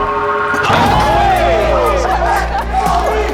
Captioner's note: cheering